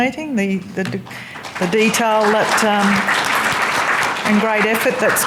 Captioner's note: audience clapping